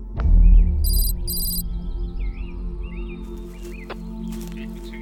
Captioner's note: radio buzzes; letters clicking